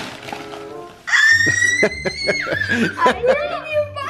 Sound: squealing; laughing

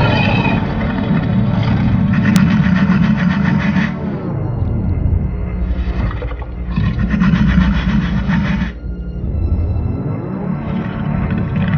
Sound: Indominus low growls

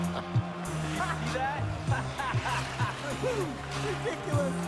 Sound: laughing; laughing

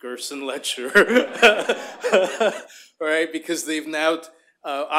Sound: laughter

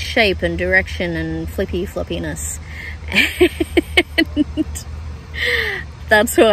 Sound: laughing

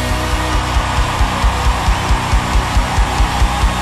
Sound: crowd cheering

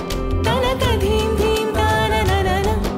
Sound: none

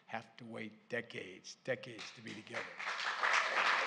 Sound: applause

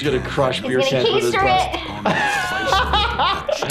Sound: laughing

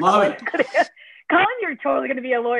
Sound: laughter

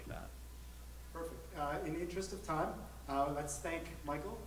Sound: voiceover

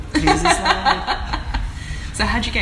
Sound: laughter

